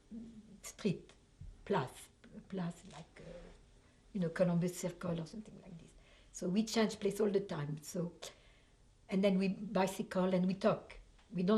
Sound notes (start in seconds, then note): 0.0 pauses for 3 seconds; 1.7 french